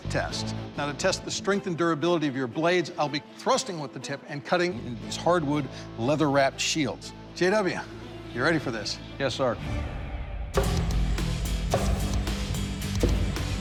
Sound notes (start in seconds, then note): 10.1 chopping